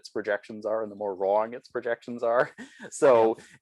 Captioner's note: laughs